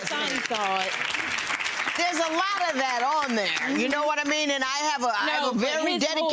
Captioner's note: audience applause drowns out